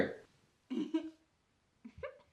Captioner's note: laughs